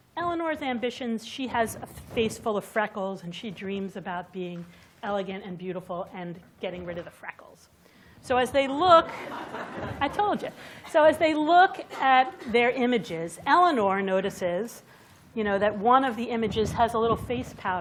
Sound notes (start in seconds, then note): 9.0 laughter